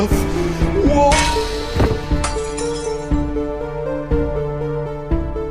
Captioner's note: smack! crack! thud